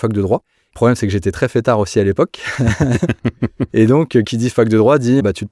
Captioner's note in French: Ensemble: Rires